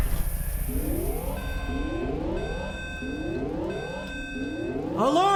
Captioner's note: alarm beeping